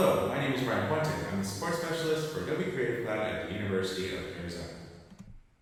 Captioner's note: with big room reverb effect